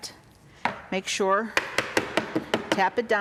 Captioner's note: cup tapping